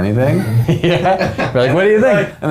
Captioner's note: laughing